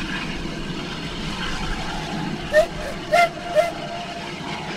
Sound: Three toots from OY

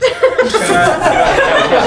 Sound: all laughing

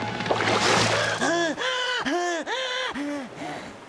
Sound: gasping

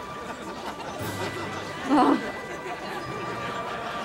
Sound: groaning

